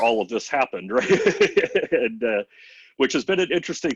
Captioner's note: laughter